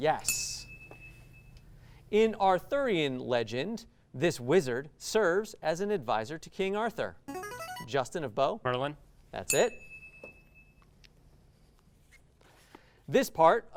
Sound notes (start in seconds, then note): 7.3 ring-in sound; 9.5 ding sound